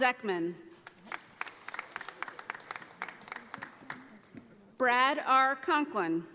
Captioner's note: audience applauding